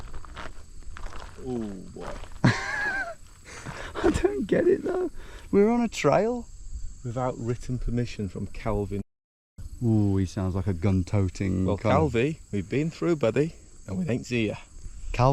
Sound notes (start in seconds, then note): 2.4 laughing nervously